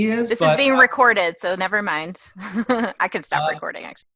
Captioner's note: laugh